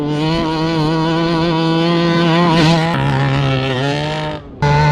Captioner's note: truck engine roaring